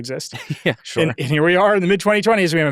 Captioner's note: laughs